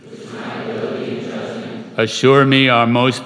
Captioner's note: crowd